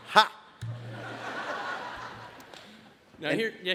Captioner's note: audience laughs